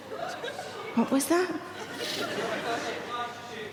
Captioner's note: audience laughing